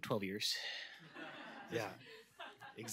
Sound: laughter

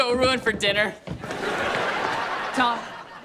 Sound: laughing

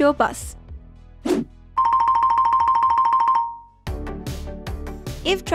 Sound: playful music; air whooshes

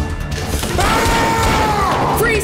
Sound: yelling

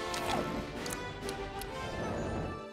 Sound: smacking

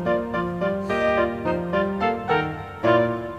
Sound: sighs

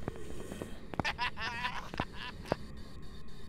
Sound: laughs

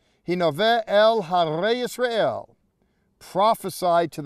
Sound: speaking in Hebrew

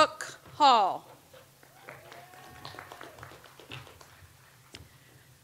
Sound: audience applauds

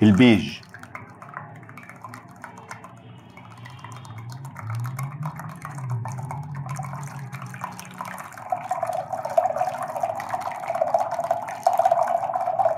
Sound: stirring sound

